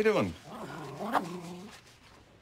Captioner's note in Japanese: 犬うなります